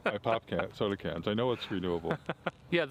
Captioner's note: laughing